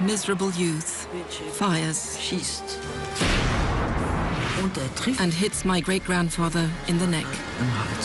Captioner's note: gunshot